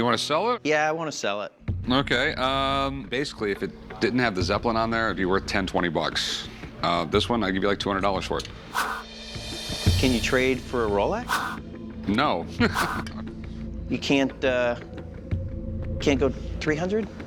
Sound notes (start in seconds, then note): 12.6 laughs